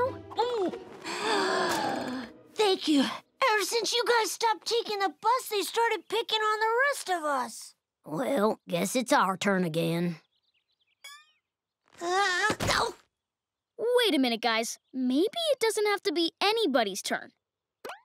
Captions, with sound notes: [gasping] Thank you. Ever since you guys stopped taking the bus, they started picking on the rest of us. Well, guess it's our turn again. Ah! Ow! Wait a minute, guys. Maybe it doesn't have to be anybody's turn.